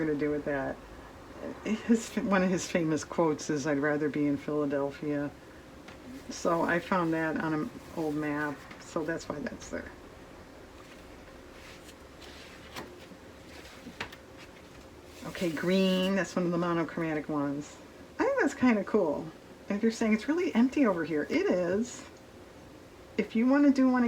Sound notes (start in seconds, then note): none